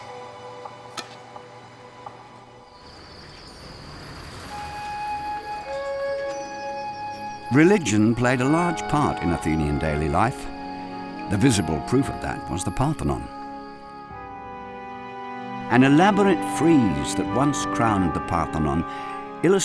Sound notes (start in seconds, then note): 2.9 birds chirping; 5.4 bright music